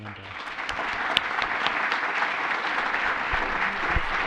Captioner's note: applause